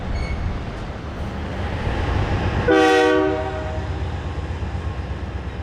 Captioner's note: cars passing and train horn